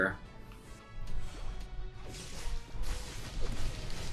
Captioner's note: fighting sounds